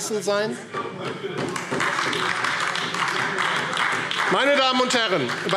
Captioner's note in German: Beifall AfD